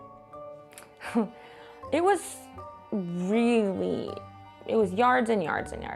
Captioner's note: laughs